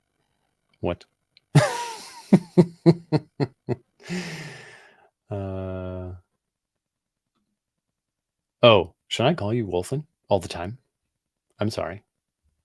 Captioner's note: laughs